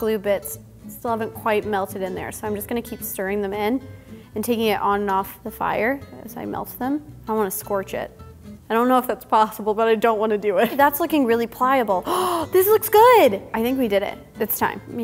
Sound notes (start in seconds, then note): 12.0 gasping